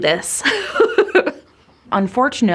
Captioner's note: laughing